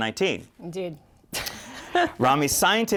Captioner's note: laughter